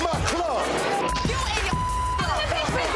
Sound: beep

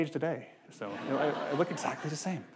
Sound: audience laughing

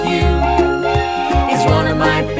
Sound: toot, toot

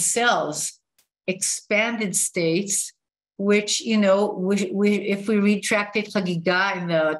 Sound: non-english speech

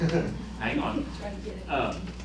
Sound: laughter

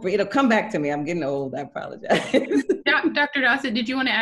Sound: laughing

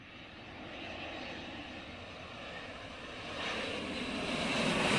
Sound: airplanes echoing

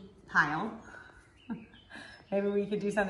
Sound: woman laughs

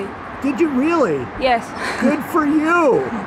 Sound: chuckling

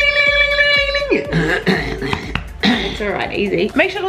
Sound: man scrapes throat

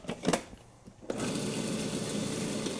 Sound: lid Closes

